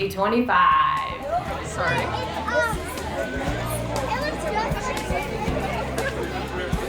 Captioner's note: indistinct crowd chatter; melodic music